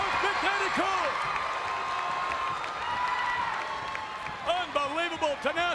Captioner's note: crowd cheers